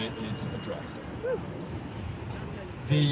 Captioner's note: whoop